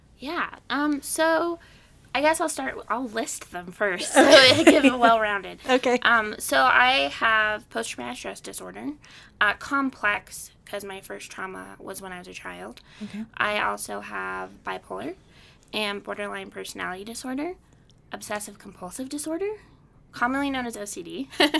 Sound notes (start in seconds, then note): 4.0 laughing